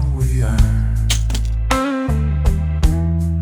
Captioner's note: trap snaps shut